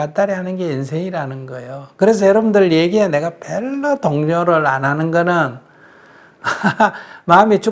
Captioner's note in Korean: 웃음